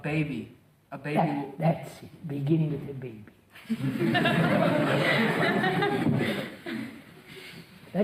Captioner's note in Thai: หัวเราะ